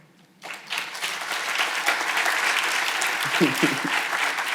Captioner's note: audience applauding